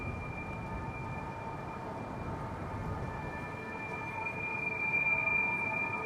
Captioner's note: high pitched humming frequency